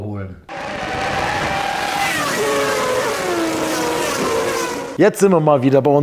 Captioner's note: engine sounds